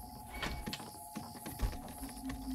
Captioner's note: window creaks